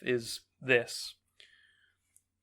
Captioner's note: small sigh